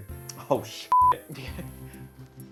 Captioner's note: beep